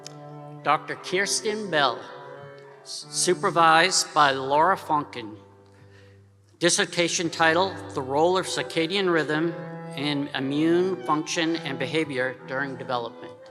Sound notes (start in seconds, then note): none